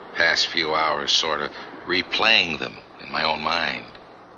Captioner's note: none